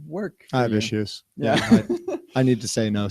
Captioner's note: laughter